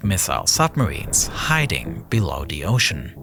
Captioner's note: video whooshes